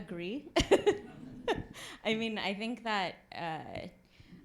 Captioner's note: laughs